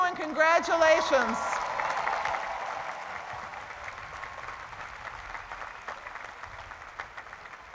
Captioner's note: cheering and applause